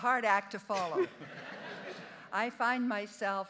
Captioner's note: audience laughing